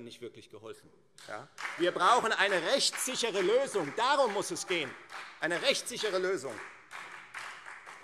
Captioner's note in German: Beifall Freie Demokraten